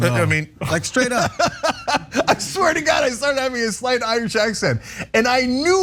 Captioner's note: laugh